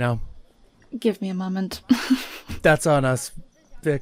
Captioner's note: laughs